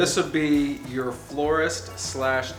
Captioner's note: male Voice